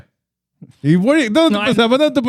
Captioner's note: speaking Spanish